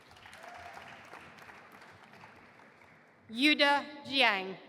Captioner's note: audience applauding